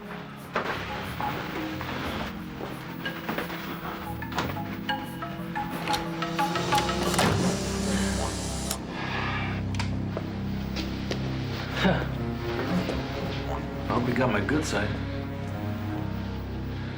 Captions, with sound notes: (camera shutter clicks) (both sighing) - Huh. I hope he got my good side.